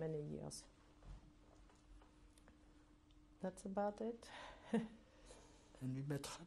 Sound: pauses for 3 seconds

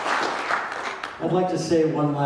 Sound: audience claps

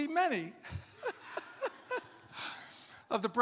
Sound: congregation laughs; laughs

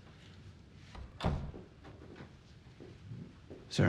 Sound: door shutting

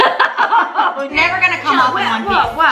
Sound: laughs

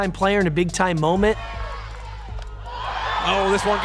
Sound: crowd Cheering

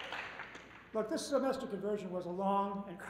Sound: cheers and applause

